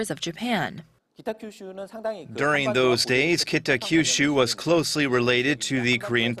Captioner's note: korean